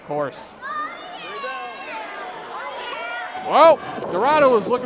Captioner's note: crowd clamoring